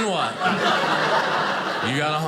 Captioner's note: audience laughing